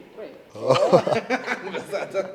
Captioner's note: laughs